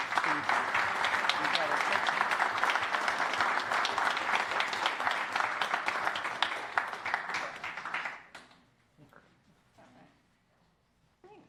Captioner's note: applause